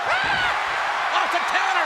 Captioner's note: audience cheers